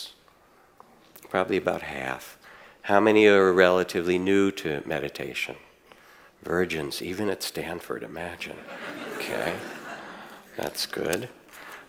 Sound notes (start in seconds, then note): 8.5 audience laughs